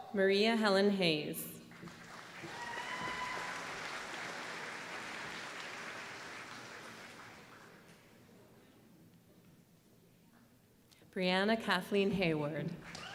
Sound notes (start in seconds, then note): 1.7 applause; 12.8 applause